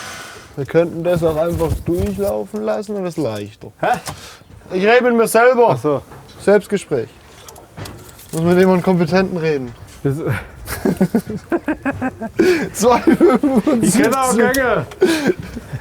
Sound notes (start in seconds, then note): 10.0 they laugh